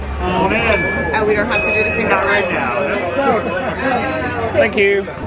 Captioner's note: indistinct chatters